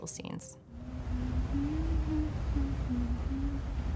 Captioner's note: woman humming